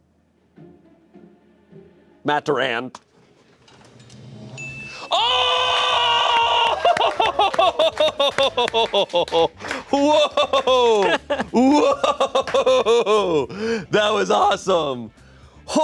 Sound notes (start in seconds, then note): 3.9 drum roll hisses; 4.6 bell chimes; 6.0 laughs; 7.4 crew applauds